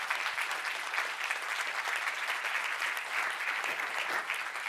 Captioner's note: applause